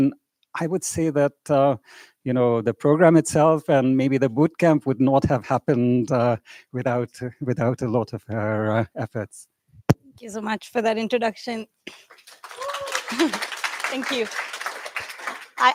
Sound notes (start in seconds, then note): 12.1 cheers, applause